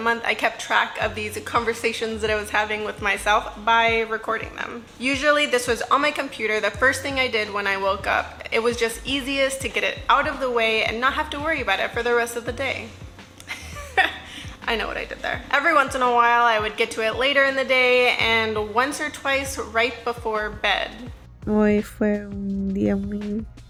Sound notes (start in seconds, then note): 13.5 laughs